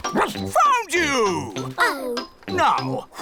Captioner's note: barks